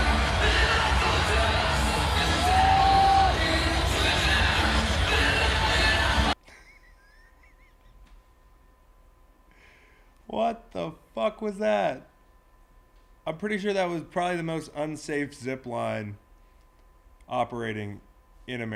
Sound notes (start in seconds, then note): 2.3 crowd cheering; 6.4 laugh